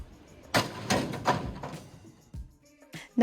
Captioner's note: metal slamming on the ground